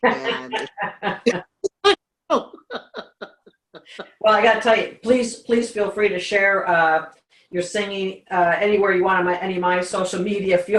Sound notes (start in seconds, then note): 0.0 laughter